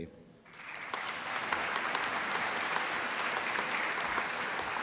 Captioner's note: applause